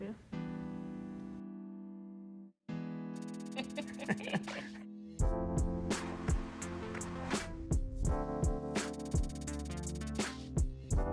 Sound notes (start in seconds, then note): 3.5 both laugh; 5.1 light music